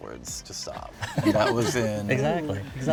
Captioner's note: crowd laughing